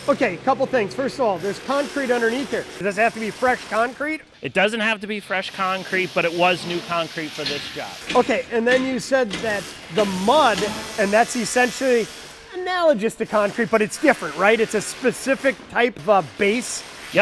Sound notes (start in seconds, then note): 8.0 tool thudding